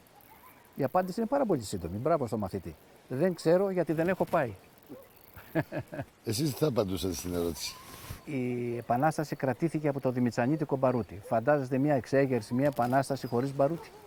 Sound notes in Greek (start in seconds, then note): 5.4 γέλιο